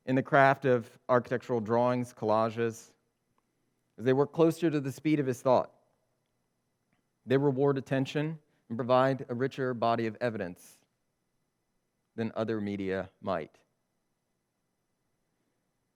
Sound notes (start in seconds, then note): none